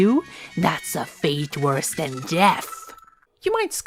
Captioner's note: audio quality crunches